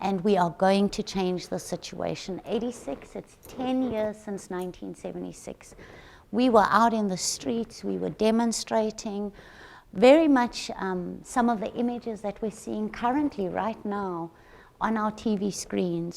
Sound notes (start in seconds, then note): none